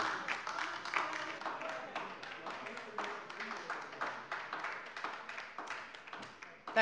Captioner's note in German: Beifall bei der der LINKEN